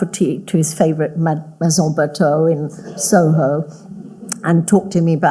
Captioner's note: audience laughing